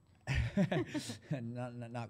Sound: laughter

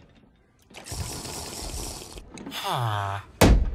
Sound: slurp.mp3

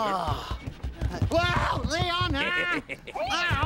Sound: Lionel shouts

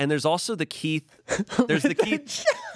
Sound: laughs

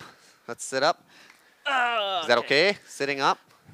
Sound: groans

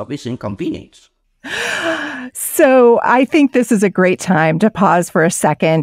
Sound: inhales sharply

